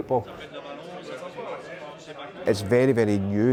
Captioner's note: crowd chattering